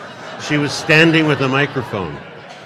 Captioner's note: audience laughing